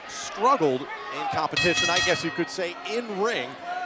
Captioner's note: bell ringing